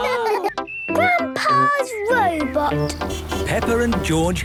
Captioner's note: laughter; honking